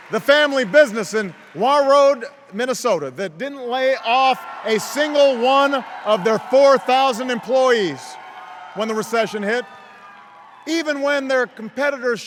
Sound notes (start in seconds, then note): 0.0 cheers; 2.1 isolated part of audience cheers